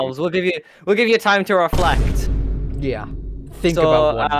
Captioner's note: vine boom again